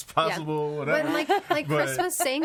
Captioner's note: all laughing